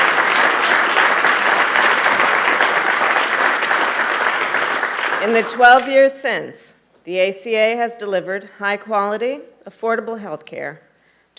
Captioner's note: applause